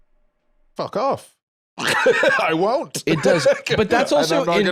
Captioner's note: laughs